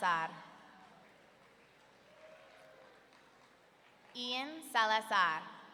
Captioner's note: audience clapping